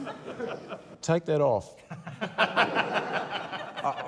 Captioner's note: laughter